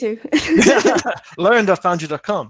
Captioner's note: laughing